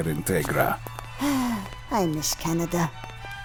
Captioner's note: sighing